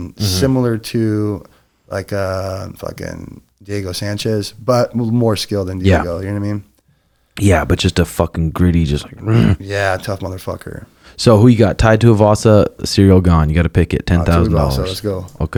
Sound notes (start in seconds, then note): 9.5 growls